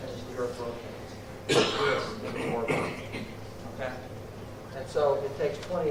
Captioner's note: coughing